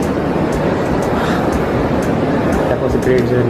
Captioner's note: sigh of relief